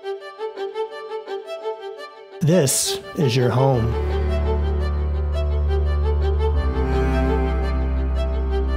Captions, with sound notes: (Voiceover) This is your home